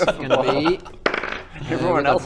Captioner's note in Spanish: tirada de dados